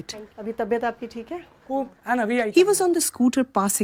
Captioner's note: speaking Gujarati